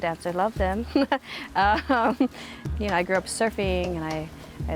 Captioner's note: chuckles